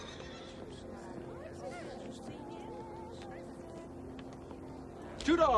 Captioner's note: horse neighing; people chattering distantly